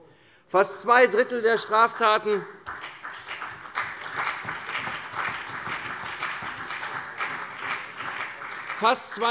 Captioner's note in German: Vereinzelter Beifall CDU und BÜNDNIS 90/DIE GRÜNEN